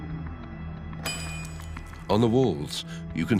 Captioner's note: metal clanks